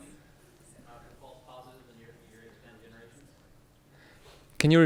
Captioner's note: speaking off microphone